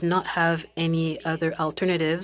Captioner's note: speaking french